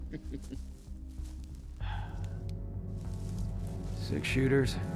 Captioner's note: sighs